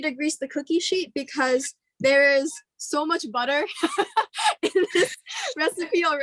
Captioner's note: laughs